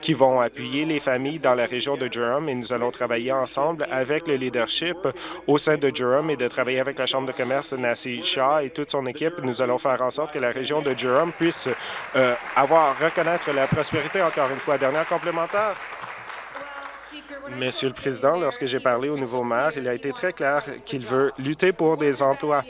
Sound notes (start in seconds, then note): 14.3 applause